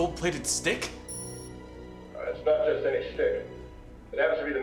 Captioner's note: beep